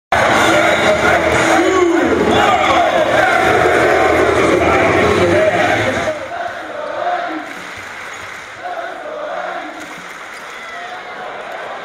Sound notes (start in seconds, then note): 0.0 crowd cheering; 7.4 rhythmic clapping; 9.7 rhythmic clapping